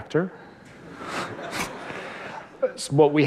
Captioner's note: laughter